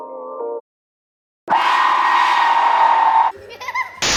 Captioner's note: horrible shrieking!